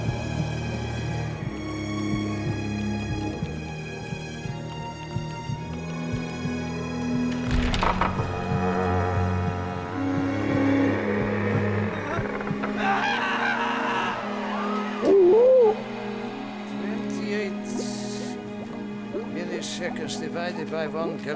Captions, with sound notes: (heartbeats) (screaming) (owl hooting) - 28 milliseconds divided by one galactic light year.